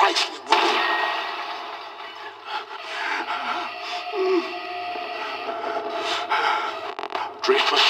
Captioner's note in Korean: 문 부서짐, 알람이 울림